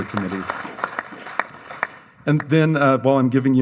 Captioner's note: audience applauds